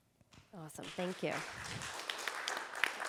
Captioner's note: audience applauding